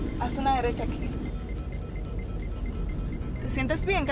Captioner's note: bleep sound becomes more rapid